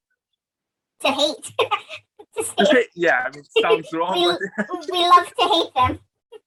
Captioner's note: laughs